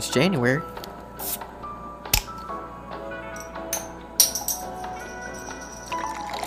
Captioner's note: bottle cap pops open and is discarded; liquid pouring